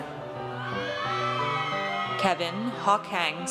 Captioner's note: audience cheers